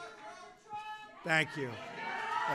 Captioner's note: applause